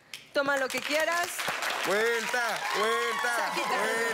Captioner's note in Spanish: Aplausos